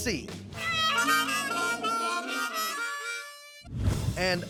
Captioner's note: horn sound